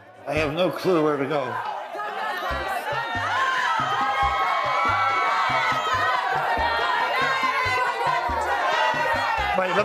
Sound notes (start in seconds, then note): 1.6 chants; 3.7 cheering; 6.4 chants